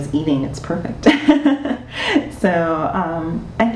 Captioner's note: laughing